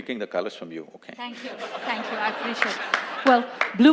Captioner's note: laughter